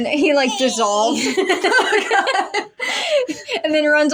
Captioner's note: laugh; laughing